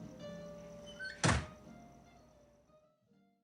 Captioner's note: door closes